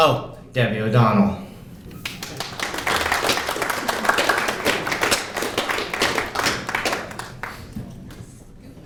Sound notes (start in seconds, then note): 2.0 applause